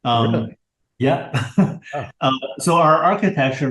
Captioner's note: laughs